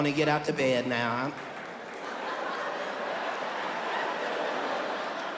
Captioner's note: audience laughing